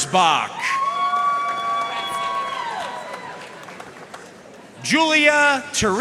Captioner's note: audience cheering and applauding